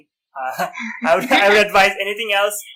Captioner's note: laughter